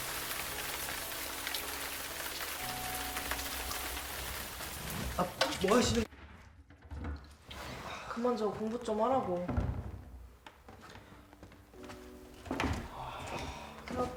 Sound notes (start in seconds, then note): 6.1 bong; 11.0 calm classical music